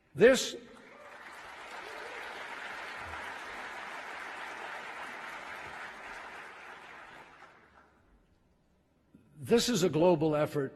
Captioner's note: applause